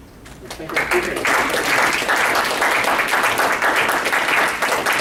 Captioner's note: students applauding